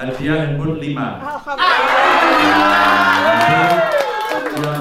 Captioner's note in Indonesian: tepuk tangan